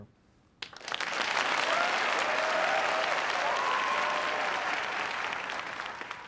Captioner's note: applause